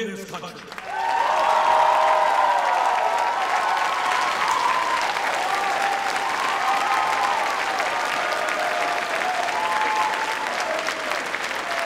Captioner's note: Applause, Chants of "Bernie"